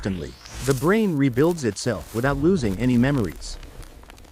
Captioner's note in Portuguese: Español